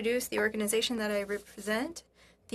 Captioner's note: speaking French